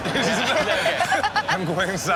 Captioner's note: audience laughs